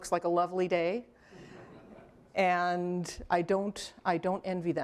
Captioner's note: laughter